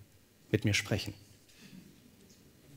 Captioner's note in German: Stille